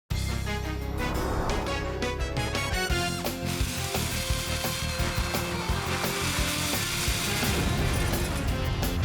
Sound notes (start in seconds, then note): 3.0 lit fuse sound; 6.8 explosion